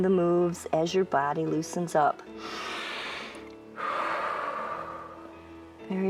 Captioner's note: inhales and exhales